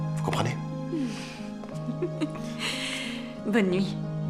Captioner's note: small laugh